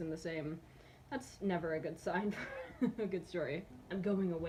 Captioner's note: chuckles